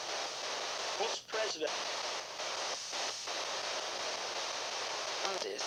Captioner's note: male voice speaking